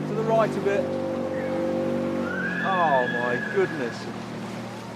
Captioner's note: dinghy engine whirring